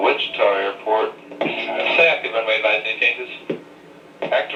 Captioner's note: voiceover